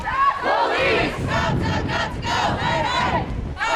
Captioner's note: crowd